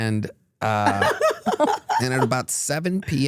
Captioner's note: laugh